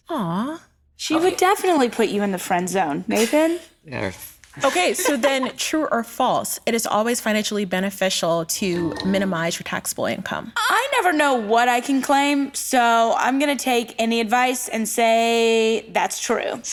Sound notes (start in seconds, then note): 4.6 laughs